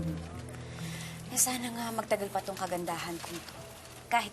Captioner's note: inhales sharply